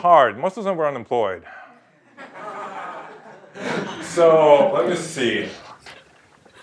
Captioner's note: laugh